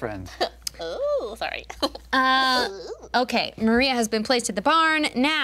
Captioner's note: laughing